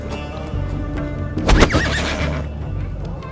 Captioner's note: Avanshee whinnies